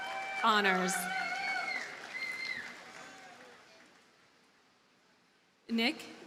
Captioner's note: audience cheers and applauds